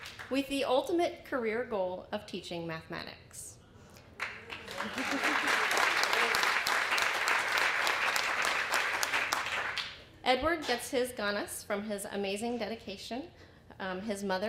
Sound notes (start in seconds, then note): 0.0 applause; 4.1 applause